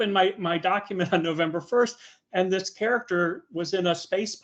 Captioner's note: chuckling